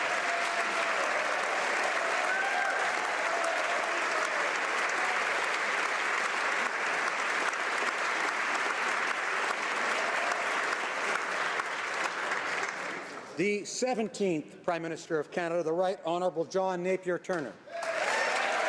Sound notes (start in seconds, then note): 2.1 applause